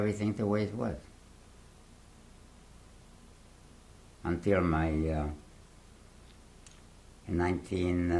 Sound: pauses for 3 seconds

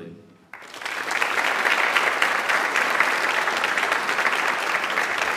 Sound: audience applauds

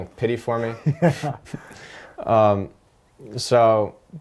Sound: laughter

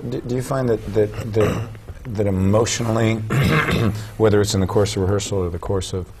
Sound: clears throat

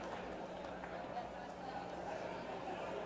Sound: applause

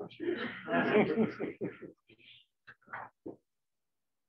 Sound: laughter

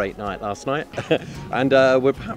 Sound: chuckles

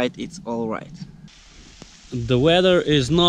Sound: rain

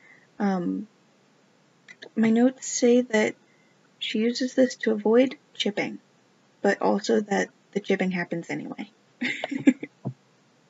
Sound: laugh

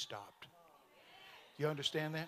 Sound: congregation muttering in agreement

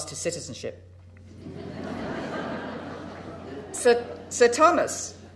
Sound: crowd laughing

